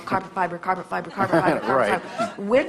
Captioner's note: guest laughs